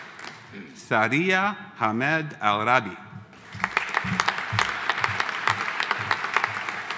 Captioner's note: audience applauding